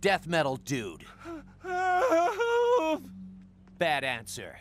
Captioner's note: thug wimpering